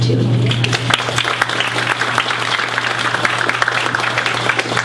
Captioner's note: audience applauds